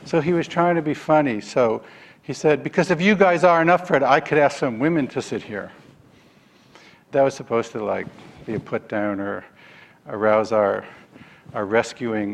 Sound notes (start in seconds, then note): none